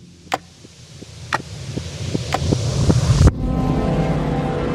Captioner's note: rising hiss and clock ticking; clock ticking